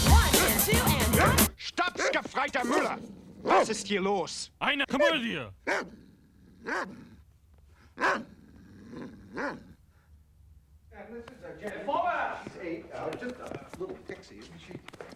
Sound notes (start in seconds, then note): 1.7 speaking german